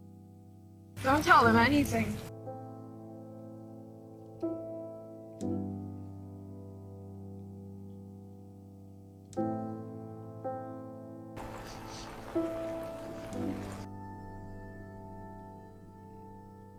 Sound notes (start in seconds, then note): 11.7 Sienna cries